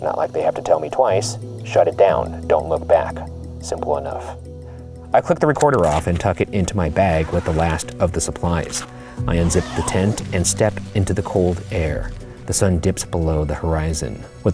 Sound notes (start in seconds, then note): 9.2 zipper zipping; 9.3 hook-and-loop fastener ripping